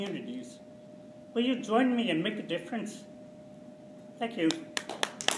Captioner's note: applause